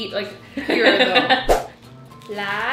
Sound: laughing; slide swooshing

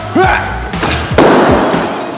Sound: grandpa noise; pop!

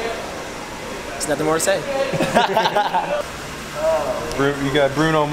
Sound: laughing

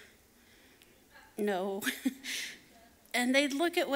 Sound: laughs

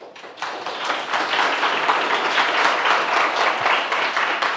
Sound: audience applauds

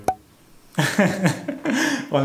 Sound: laughter

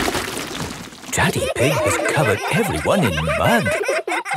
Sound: all laughing

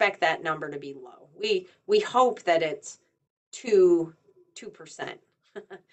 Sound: chuckles

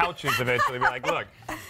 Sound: laughter

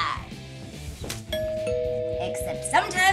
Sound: SFX: Door bell

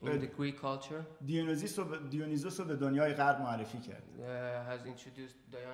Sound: speaking in farsi

